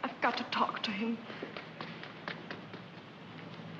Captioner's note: footsteps running